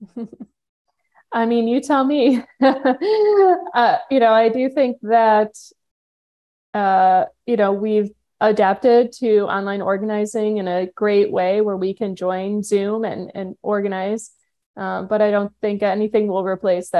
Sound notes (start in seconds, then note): 2.4 chuckling; 2.4 laughing